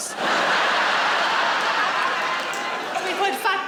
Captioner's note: laughing